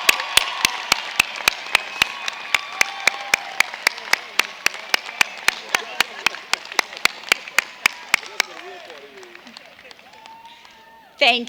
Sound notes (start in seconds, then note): 1.7 cheers and applause